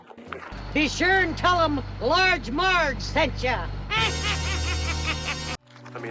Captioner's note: laughs; suspenseful music